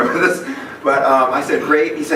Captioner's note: laughs